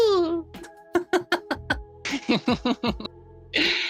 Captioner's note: laughing